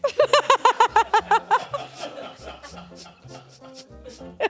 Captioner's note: laughs